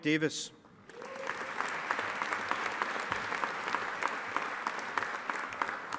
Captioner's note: audience applauding